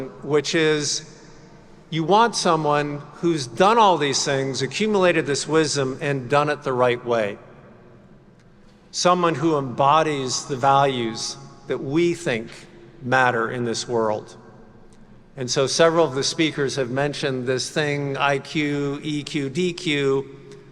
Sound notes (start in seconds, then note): none